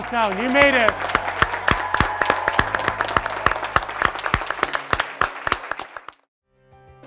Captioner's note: graduates cheering; graduates clapping